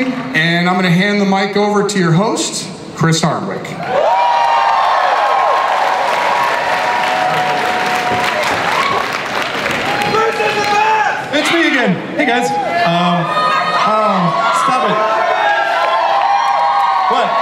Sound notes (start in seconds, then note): 4.3 audience cheers; 10.2 voiceover; 12.3 audience cheers